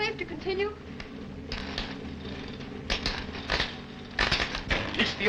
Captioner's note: machine sparking